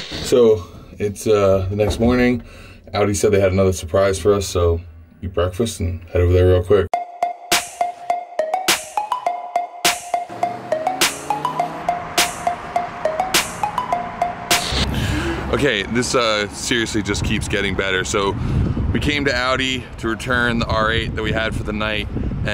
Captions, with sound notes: - So, it's the next morning, Audi said they had another surprise for us. So, eat breakfast and head over there real quick. (upbeat music) (car engine revs) Okay, this seriously keeps getting better. So we came to Audi to return the R8 that we had for the night.